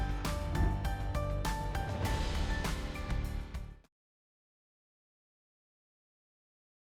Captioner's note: pensive music; air whooshes